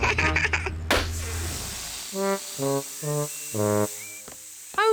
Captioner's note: laughs; tire pops, hisses